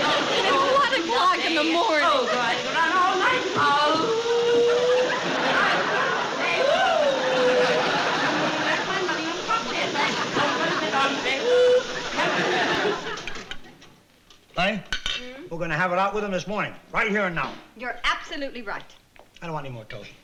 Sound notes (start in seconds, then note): 3.6 howling